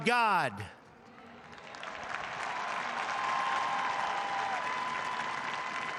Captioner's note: applause